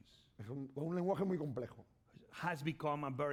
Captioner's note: speaking spanish